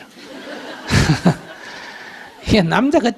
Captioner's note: audience laughter